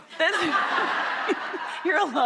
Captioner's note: laughing